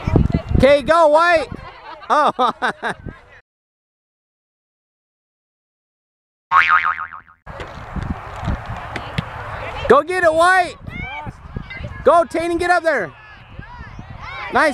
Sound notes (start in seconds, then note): 1.8 laughs; 6.5 cartoon boing sound effect